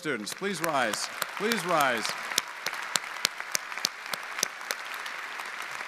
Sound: audience applauding

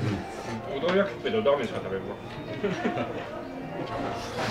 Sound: laughs

